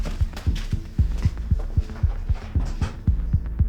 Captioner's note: footsteps fading away; threatening ambient music with pulsing rhythm